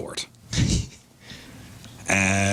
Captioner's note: laughing